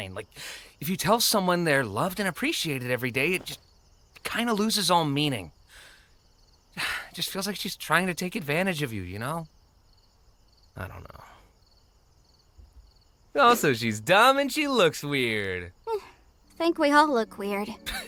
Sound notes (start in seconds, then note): 5.7 inhales deeply; 6.8 sighs